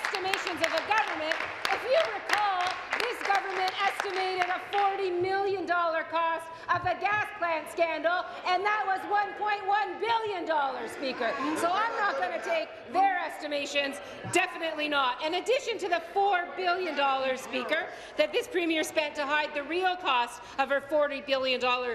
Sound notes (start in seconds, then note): 5.3 applause